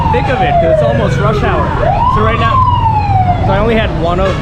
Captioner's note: sirens